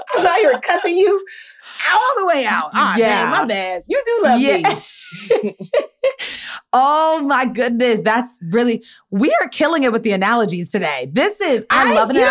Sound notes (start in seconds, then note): 4.2 laughing